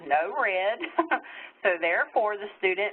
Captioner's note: laughter